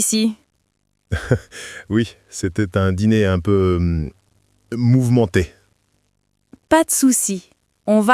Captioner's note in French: rire